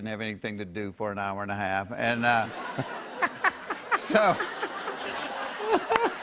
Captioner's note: laughter